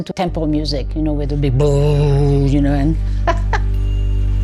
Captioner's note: laughs